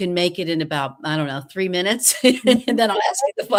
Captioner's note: laughs